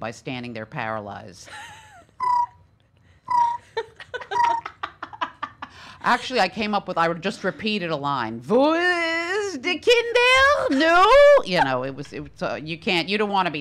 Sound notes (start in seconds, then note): 2.4 cricket noises; 8.6 speaking Yiddish